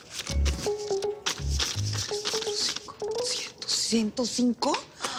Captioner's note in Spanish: Cuenta en voz baja